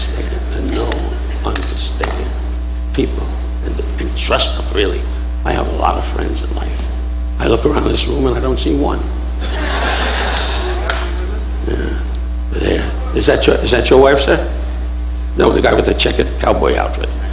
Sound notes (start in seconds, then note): 9.4 audience laughing